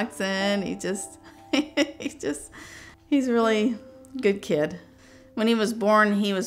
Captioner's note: laughs